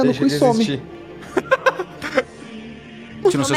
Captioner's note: laughs